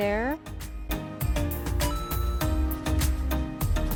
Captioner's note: ba ding!